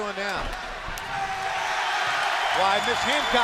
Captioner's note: crowd cheering